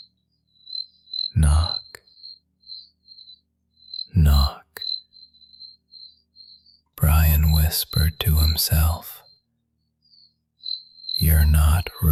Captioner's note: whispering to himself